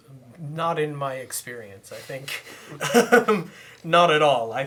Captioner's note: chuckling